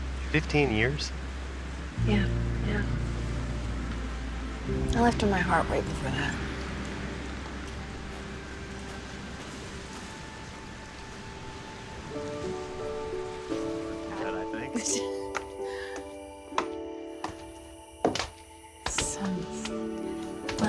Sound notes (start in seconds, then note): 14.7 chattering; 16.4 footsteps